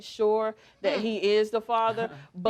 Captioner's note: both scoff